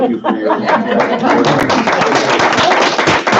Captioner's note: applauding